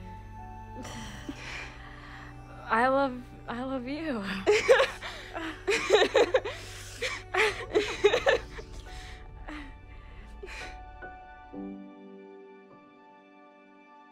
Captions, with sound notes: - I love, I love you. (laughing together in gay) (mood music)